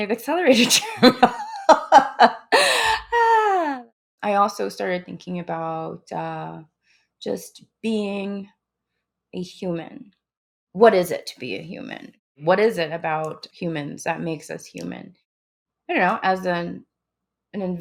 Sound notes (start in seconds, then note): 4.9 laughs